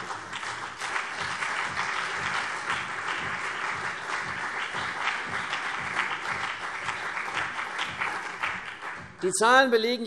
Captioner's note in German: Beifall CDU und BÜNDNIS 90/DIE GRÜNEN